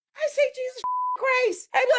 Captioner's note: beep